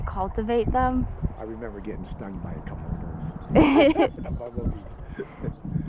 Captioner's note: laughs; laughs